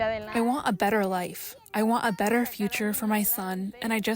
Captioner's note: through translator